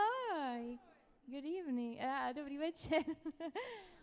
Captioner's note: speaks Czech